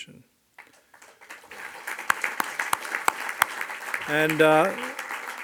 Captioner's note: audience applauds